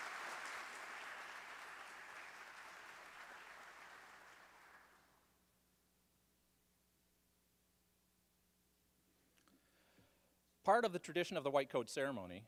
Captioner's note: applause